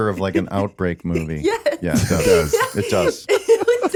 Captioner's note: laughing